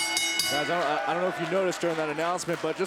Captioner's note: bell ringing